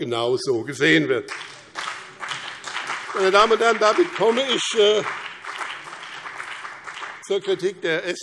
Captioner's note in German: Beifall BÜNDNIS 90/DIE GRÜNEN und CDU